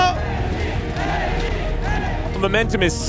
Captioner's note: crowd chanting; commentator in English